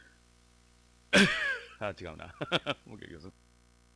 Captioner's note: cough